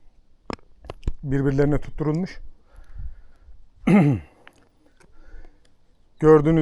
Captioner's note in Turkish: boğazını temizler